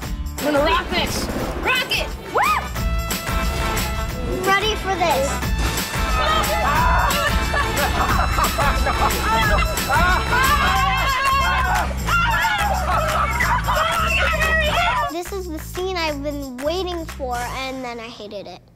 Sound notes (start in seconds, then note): 6.2 laughter and screaming; 9.1 upbeat music